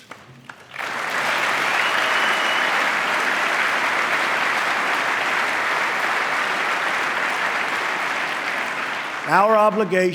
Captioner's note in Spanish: aplauso